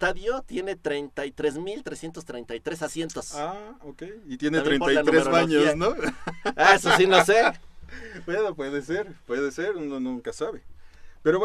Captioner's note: laughs